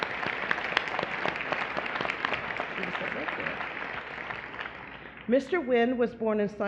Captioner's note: applause